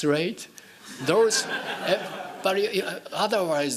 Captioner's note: laughing